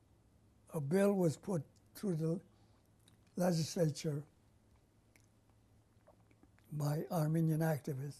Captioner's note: pauses for 3 seconds